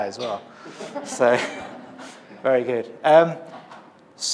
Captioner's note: laughter